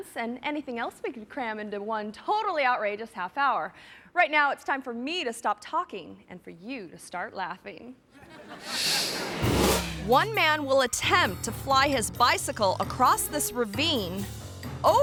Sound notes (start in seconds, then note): 8.2 audience laughing; 8.6 screen whooshes